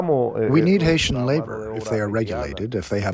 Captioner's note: through translator